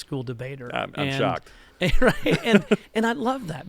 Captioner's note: laughter